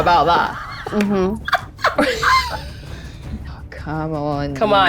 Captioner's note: laughs